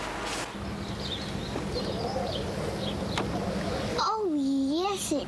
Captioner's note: birds chirping